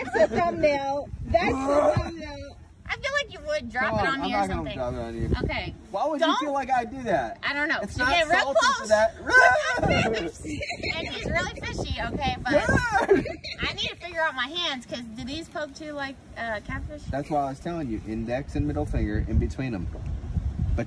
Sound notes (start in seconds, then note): 0.0 throwing up sound; 8.0 yells; 9.5 screams